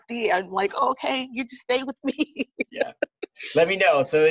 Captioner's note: laughs